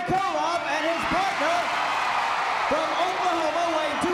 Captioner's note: crowd cheering